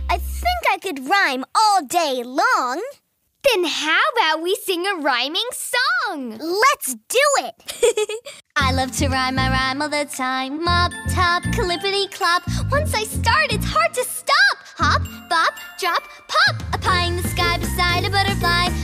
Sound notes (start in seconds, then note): 7.6 laughs